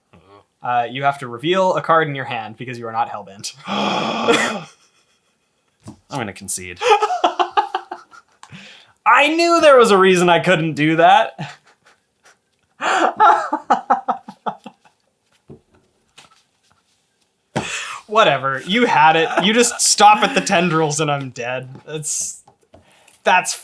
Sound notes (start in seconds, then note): 5.4 gasp